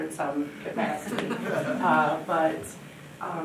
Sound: audience chuckling

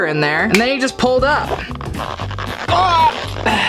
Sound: squeaking sounds

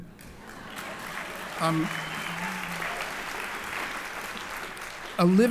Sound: applause

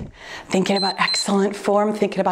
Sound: timer beeps

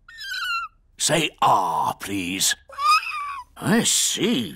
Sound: squeaks; squeaking

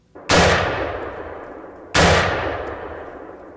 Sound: gunshots

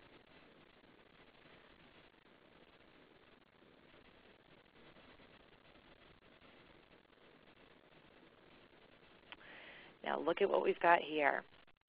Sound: silence

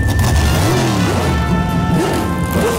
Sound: braap

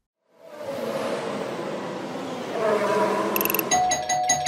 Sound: F1 car noises; doorbell rings repeatedly

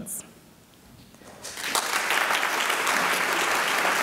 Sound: applause

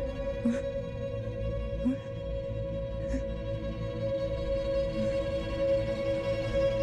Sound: woman murmurs in disbelief

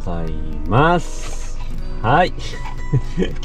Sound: laughs

